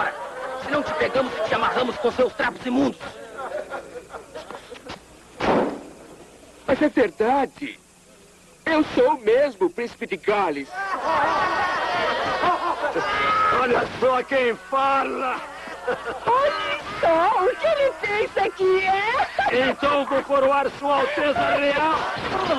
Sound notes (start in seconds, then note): 5.4 door slams; 10.7 all laughing